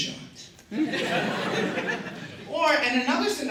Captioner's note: laughter